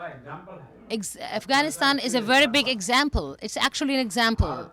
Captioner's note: through translator